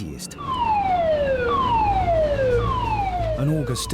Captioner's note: siren blaring